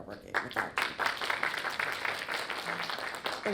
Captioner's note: audience applauds